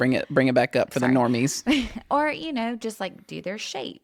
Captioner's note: laughs